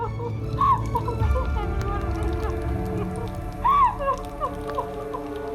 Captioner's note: sobs